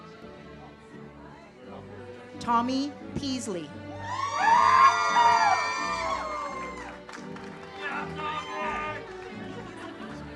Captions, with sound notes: Tomie Peasley. (audience cheers) (uplifting music)